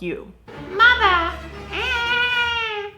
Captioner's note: baby voice; cries